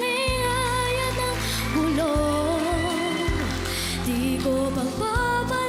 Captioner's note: crowd cheers, applauds